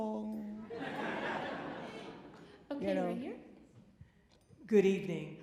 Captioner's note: audience laughing